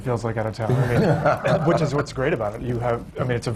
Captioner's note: laughter